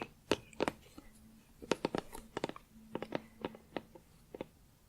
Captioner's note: tapping on plastic